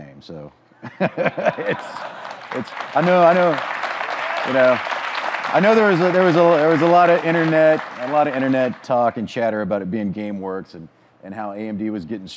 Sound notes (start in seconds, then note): 1.4 audience clapping, cheering